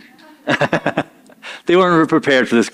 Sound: chuckles

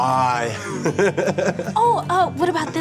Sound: chuckling

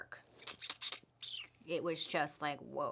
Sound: squishing sound

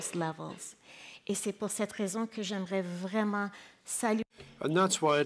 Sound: speaking in French

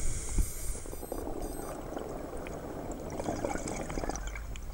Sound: inhales deeply; alarm beeping; water burbling

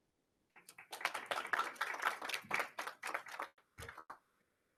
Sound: attendees applauding

